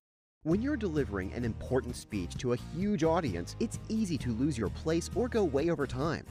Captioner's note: voiceover